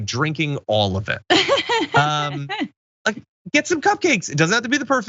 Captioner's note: laugh